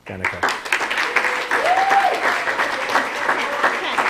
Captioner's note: applause